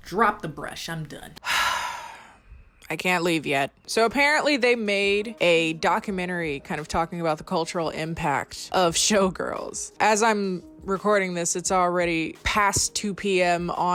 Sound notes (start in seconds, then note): 1.4 sighing